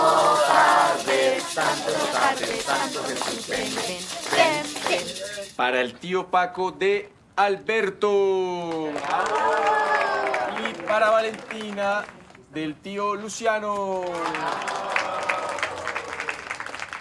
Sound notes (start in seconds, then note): 8.6 applause; 13.7 applause